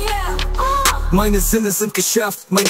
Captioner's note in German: Record scratch